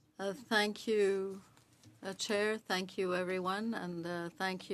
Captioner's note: speaking French